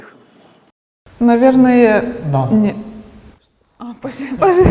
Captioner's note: laughing